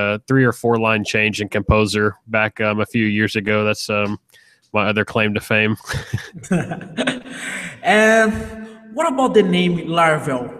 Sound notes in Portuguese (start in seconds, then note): 5.8 risos